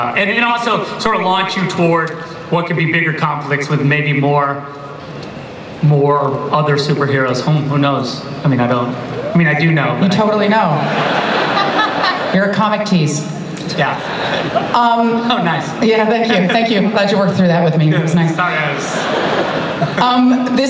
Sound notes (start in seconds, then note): 10.6 audience laughter; 18.7 laughter